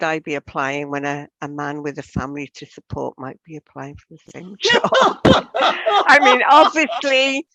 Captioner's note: laughs